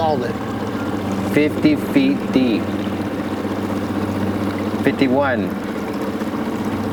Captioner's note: motor puttering